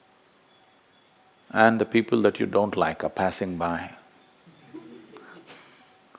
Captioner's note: laughs